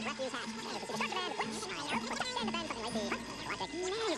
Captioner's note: talking at high speed